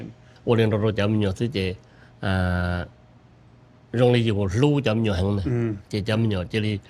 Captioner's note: speaks Hmong